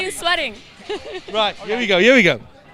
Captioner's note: laughter